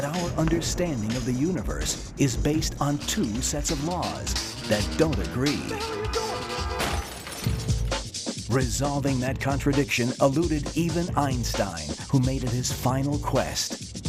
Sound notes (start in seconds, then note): 6.5 crash